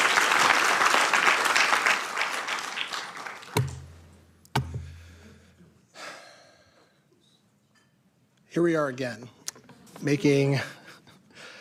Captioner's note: applause